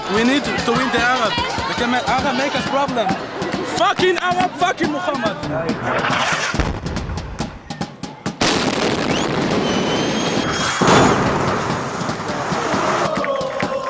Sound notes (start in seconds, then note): 6.0 sound of explosions; 8.2 celebratory music in background; 8.4 sound of explosions; 13.4 celebratory cheering and singing